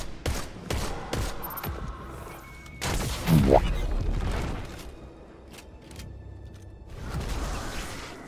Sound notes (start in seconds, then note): 2.6 boo-womp Sound effect